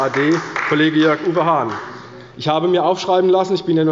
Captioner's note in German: Beifall bei der CDU